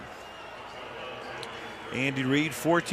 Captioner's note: pa announcement